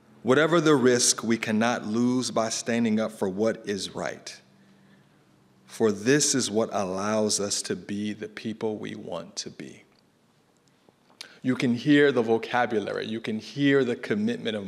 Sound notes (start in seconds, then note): none